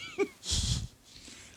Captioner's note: laughing